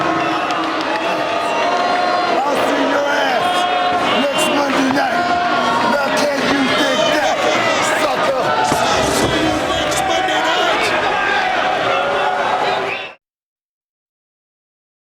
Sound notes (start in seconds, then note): 0.3 audience booing; 11.3 audience shouting